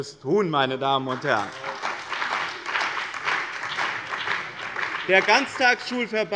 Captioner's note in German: Beifall bei dem BÜNDNIS 90/DIE GRÜNEN und der CDU